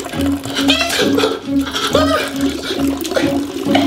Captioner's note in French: Cris de panique